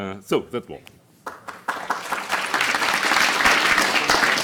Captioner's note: applause